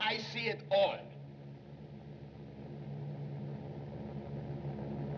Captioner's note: airplane Engines Droning